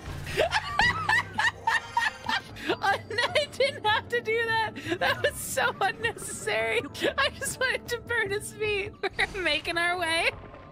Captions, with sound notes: [Laughter] [Laughing] Oh, and I didn’t have to do that. That was so unnecessary. [Laughing] I just wanted to burn his feet. We’re making our way.